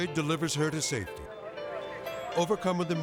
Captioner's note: firefighters chattering